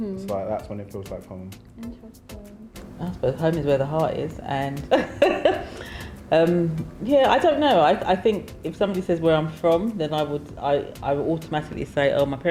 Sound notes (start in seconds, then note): 4.9 laughs